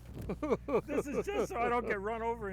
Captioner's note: laughs